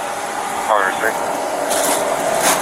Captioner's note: radio chatter